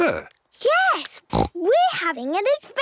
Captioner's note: snort